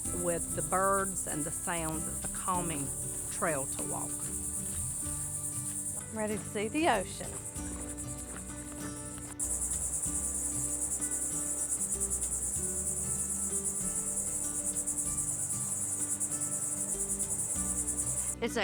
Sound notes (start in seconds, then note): 9.0 footsteps stomping; 9.0 upbeat music; 10.7 insects clittering; 10.7 upbeat music